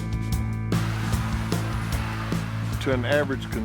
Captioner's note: guitar strings strum; vacuum whirs